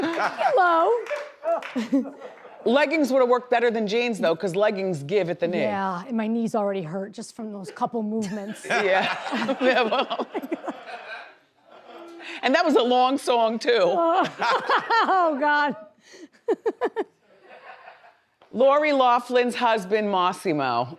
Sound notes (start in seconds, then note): 0.0 man laughs; 1.9 laughs; 8.7 laughs; 9.3 man laughs; 10.9 audience laughs; 14.5 laughs; 17.4 laughs